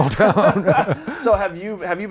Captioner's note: laughing